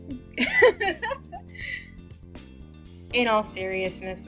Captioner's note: laughs